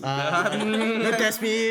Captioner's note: laughs